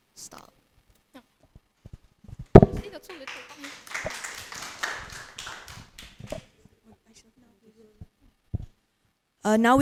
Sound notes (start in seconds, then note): 2.8 applause